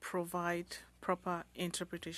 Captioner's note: speaking French